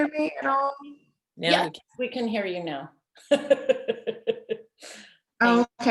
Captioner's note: laughs